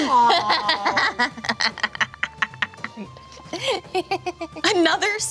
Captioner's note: laughing